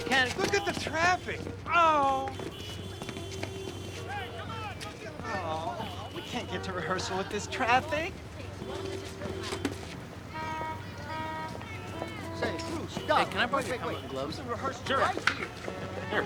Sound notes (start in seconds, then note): 4.2 horns honking, drivers shouting; 10.6 horns continue honking